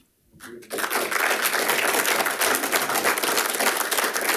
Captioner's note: audience applauding